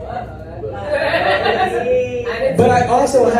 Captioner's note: laughter